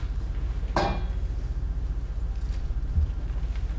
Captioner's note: thump